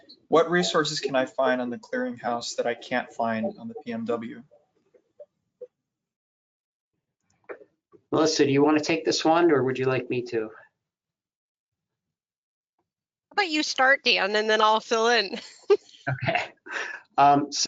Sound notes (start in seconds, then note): 16.0 laughs